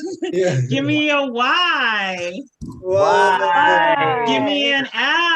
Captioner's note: Attendees chanting, mix of Y-L-F and YOLF, YOLF, YOLF!; attendees cheering "L"; attendees cheering "Y"